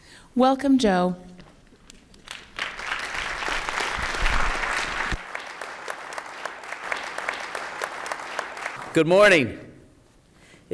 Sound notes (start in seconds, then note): 2.4 applause